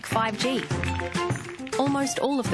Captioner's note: audience applauding